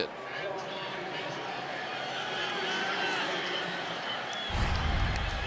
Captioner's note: pa announcement